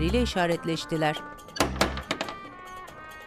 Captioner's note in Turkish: Kapı tıklama sesi